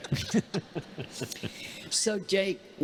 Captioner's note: congregation laughing